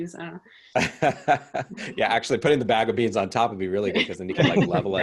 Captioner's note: laughs